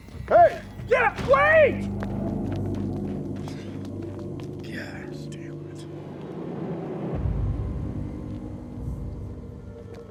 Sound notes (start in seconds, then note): 2.4 dramatic music continues; 3.4 sighs